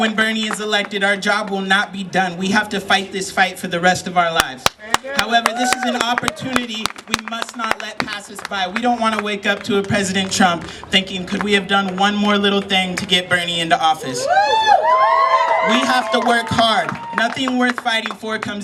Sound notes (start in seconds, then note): 4.6 applause; 15.9 cheering, clapping